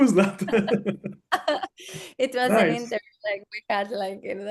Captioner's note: laughs